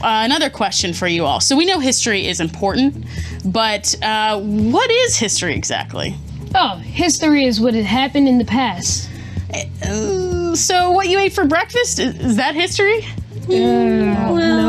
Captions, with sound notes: Another question for you all, so we know history is important, but what is history exactly? - Oh, history is what has happened in the past. - (groans) So what you ate for breakfast, is that history? - Hmm, well. - Uh, no?